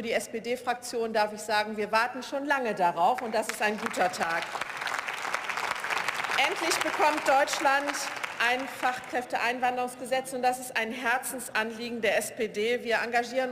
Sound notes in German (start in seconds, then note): 4.9 Beifall